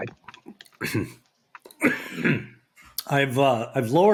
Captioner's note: coughs